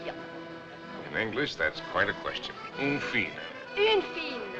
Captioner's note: French